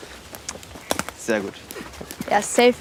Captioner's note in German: Äste knacken